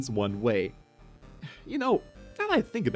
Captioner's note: huh